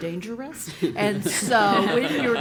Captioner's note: laugh